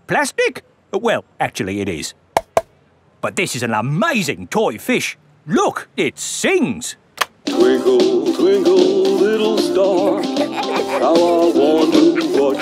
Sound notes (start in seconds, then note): 2.4 taps; 9.9 both giggling